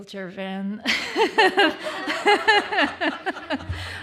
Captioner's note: laughter